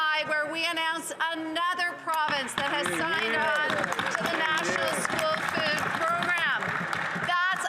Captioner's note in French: voix de l'interprète